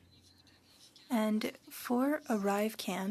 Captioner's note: speaking French